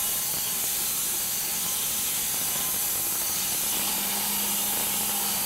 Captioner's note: machine sawing